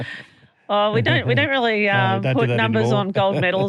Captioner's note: laughing